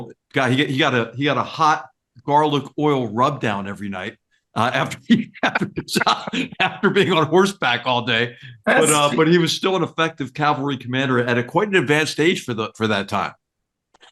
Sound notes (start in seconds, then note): 4.7 laugh